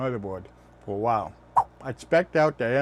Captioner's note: swipe sound